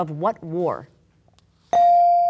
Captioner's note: bell dinging